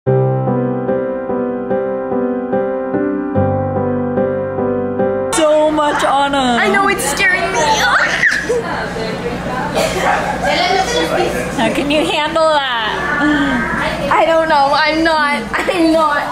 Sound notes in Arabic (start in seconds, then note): 0.1 موسيقى هادئة; 8.2 صرير